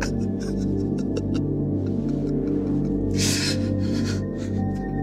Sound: Jack crying

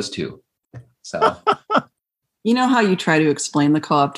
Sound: laughter

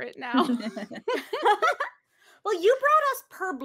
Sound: all laughing

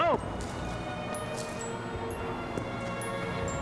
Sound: footsteps

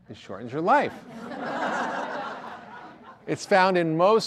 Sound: audience laughter

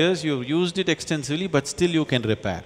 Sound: none

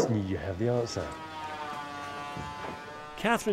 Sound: construction buzzing

